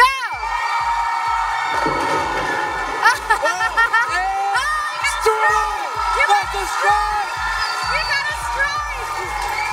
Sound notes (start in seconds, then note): 1.2 cheering, applause; 3.0 laughs